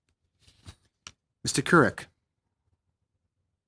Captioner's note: speaking French